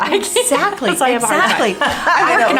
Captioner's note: laughs